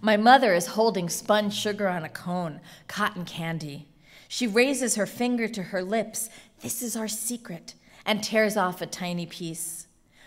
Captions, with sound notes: My mother is holding spun sugar on a cone, cotton candy. She raises her finger to her lips (whispers) - this is our secret - and tears off a tiny piece.